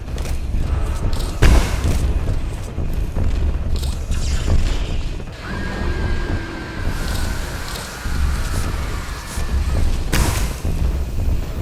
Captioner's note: gun firing; ominous music